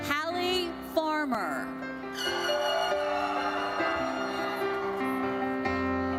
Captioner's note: audience cheers